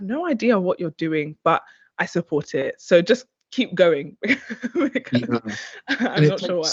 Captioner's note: chuckles